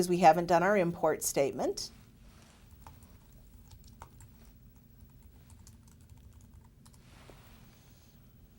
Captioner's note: typing